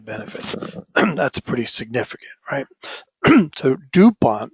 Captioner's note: cough